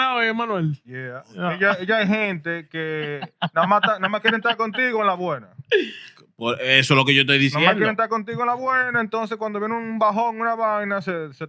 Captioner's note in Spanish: Hablando en idioma extranjero